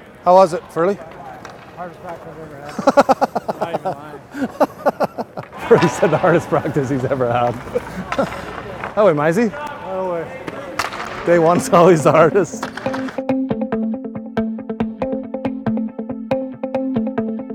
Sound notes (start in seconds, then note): 2.7 laughs; 8.5 laughs; 13.0 anticipatory music